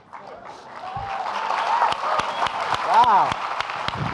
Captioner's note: audience applauding